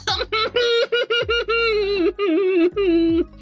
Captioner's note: crying